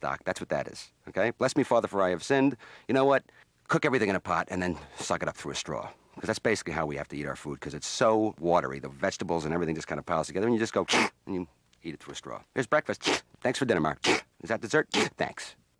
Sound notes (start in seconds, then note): 12.9 slurp